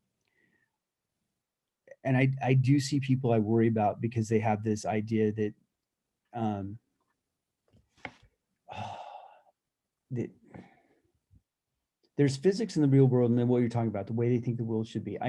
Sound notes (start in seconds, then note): 8.7 sigh